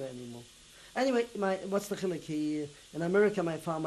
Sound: non-english

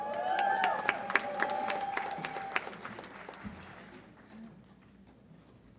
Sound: audience applauds and cheers

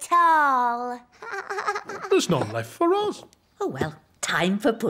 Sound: laughs

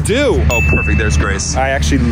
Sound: ding sounding

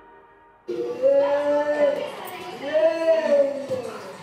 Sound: children moaning and crying

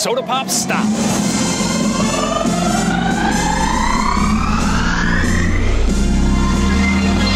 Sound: triumphant music; pitch raises

